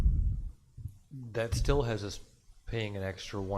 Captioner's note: pat